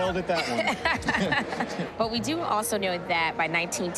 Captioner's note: sighs, chuckles; laughs